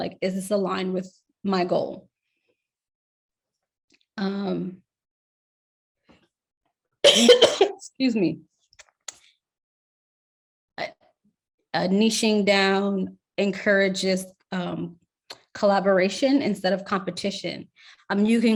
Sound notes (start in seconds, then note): 7.0 coughs